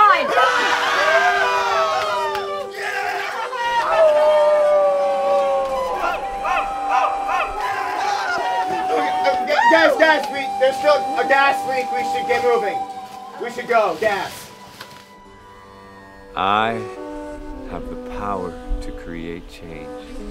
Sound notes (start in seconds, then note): 3.9 howling